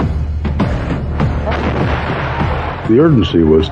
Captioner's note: explplososion n